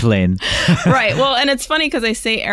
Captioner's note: both laughing